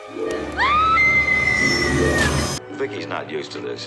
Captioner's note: screaming